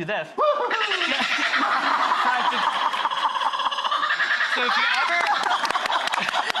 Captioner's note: handler laughing, kookaburra chattering